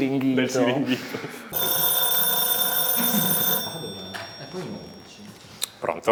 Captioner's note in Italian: squilla il telefono